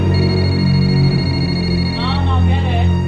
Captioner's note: phone ringing